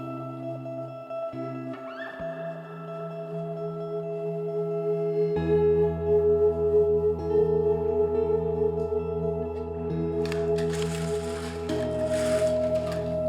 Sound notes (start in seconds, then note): 10.2 blinds being drawn